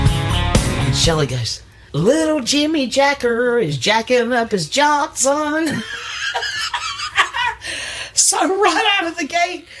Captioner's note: laughs